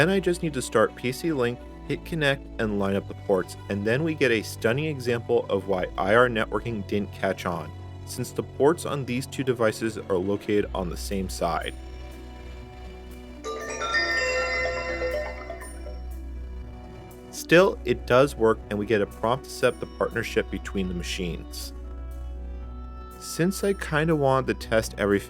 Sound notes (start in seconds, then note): 13.4 ThinkPad plays IrDA connection sound